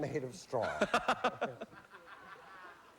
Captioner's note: laughs